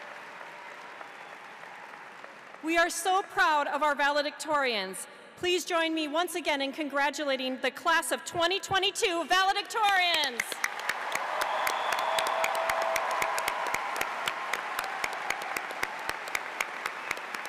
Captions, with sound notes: We are so proud of our valedictorians. Please join me, once again, in congratulating the class of 2022 valedictorians. (audience applauds) (cheering)